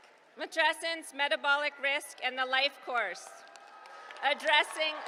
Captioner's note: applause